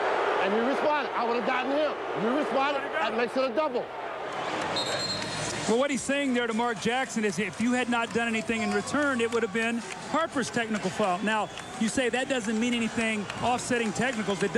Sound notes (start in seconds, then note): 4.7 whistle blows